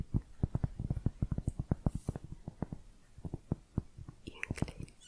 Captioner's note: tapping on cork